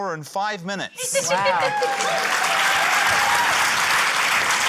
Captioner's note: cheering, applause